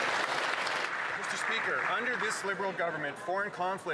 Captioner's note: applause